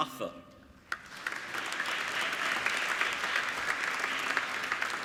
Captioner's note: applauding